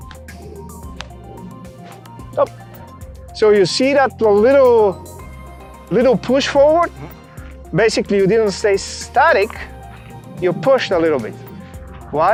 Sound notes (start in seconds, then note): 0.1 hand whooshes; 0.8 hand tapping